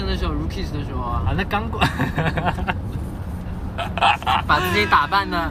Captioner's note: distressed laughter